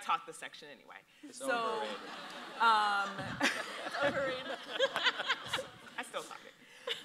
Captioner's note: audience laughs